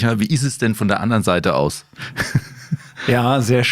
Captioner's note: laughs